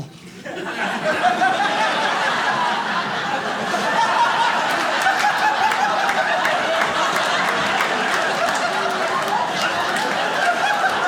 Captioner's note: audience laughs